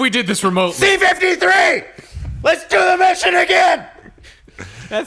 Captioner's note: screaming